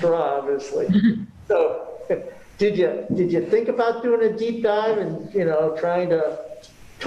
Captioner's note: chuckle